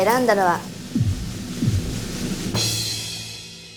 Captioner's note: heart pounding